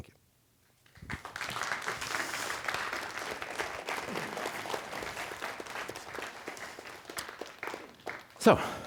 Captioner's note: applause